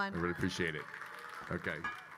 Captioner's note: attendees clapping